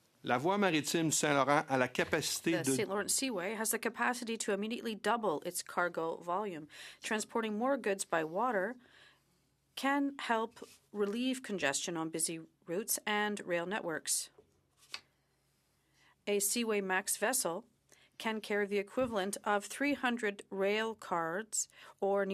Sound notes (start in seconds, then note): 3.8 speaking in French